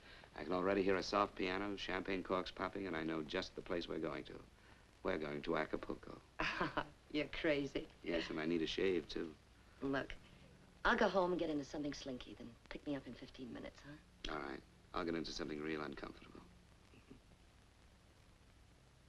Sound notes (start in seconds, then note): 6.4 chuckles